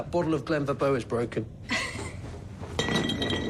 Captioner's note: chuckles